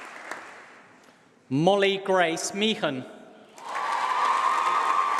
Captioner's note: applause